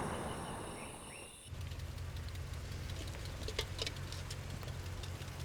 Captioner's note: engine rumbling